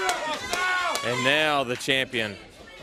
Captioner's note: crowd cheering